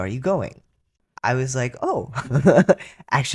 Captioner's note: laughter